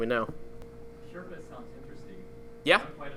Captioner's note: voiceover